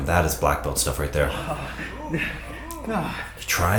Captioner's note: breathes heavily